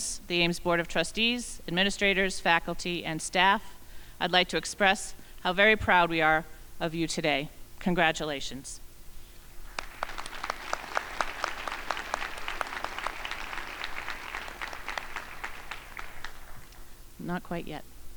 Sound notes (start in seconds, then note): 9.6 crowd applauding